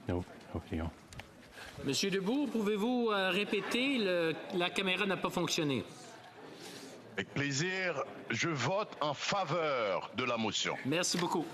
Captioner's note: speaking French